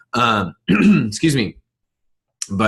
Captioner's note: clearing throat